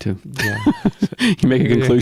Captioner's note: laughing